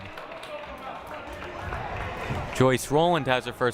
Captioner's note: crowd applauding